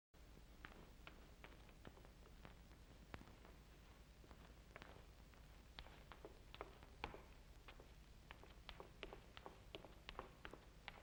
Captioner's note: footsteps down stairs